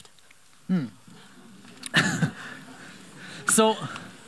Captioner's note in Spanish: risas